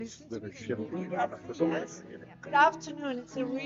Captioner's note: crowd chattering